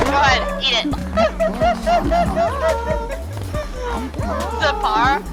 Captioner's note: laughing